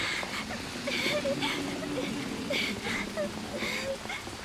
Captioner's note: crying